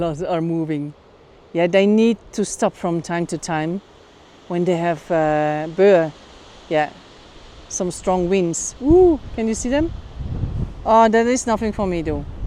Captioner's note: gust